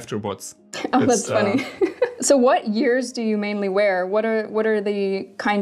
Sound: laughing

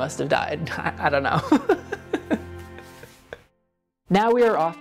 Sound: laughs

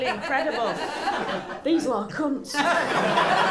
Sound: stage whisper; laughter

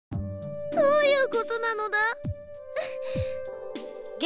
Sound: sniff

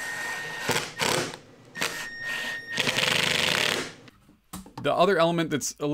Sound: impact Drill Sounds

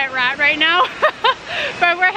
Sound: laughter

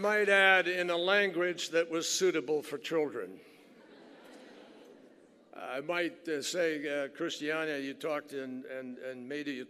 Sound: laughter

